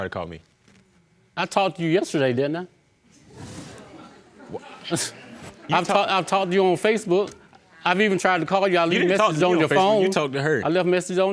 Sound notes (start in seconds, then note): 3.2 audience murmuring; 4.3 scoffs